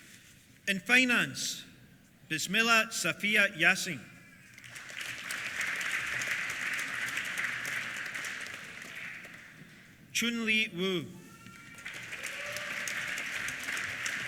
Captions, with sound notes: In Finance, Bismillah Saffiyah Yasin. (APPLAUSE) Chunli Wu. (CHEERS) (APPLAUSE)